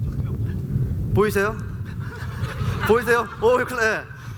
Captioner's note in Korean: 웃음